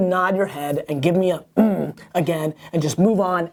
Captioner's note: grunt